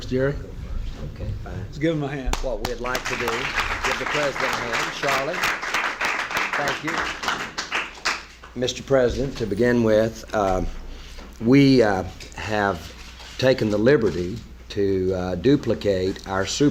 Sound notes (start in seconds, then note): 2.3 crowd clapping